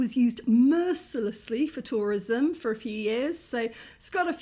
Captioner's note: none